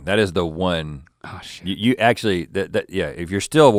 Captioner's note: sighs